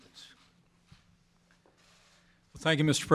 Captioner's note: none